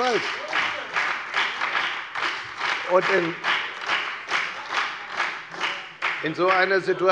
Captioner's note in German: Beifall bei der FDP und bei Abgeordneten der SPD